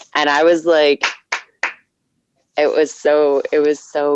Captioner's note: clapping